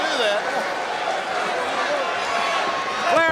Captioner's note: audience cheering